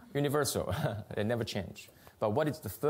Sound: laughs

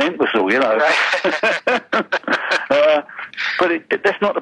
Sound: both laughing

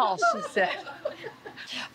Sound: laughter

